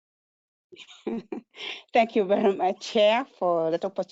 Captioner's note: laughs